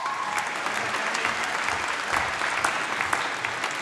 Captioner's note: applause